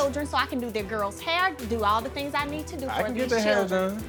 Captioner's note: none